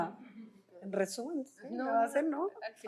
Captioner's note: non-english speech